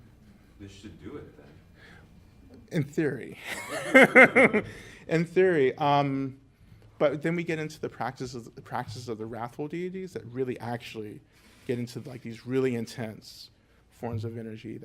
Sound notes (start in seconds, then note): 3.4 laughter